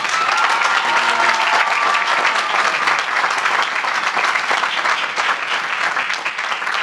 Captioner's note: applause